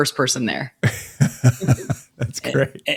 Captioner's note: laughing